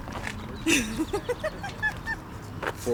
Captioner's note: laughing